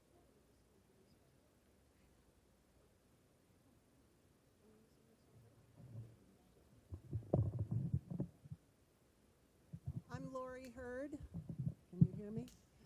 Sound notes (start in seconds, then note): none